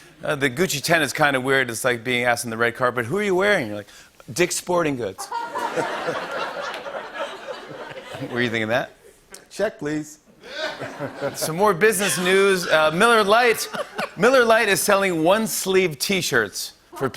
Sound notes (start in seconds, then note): 5.7 light laughter